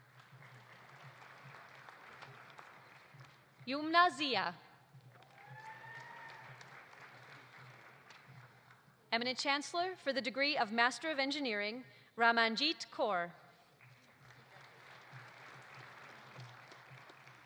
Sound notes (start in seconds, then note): 0.0 audience applauding; 5.0 audience applauding; 5.2 audience cheering; 13.8 audience applauding